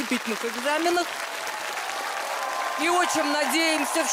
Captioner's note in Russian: аплодисменты